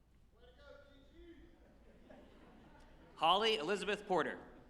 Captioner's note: off-mic participant shouting comment